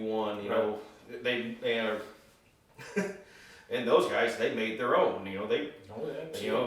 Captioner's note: chuckling